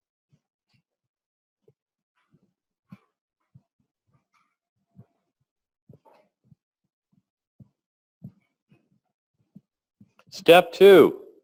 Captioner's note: pause